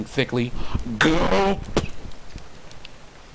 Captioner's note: gulp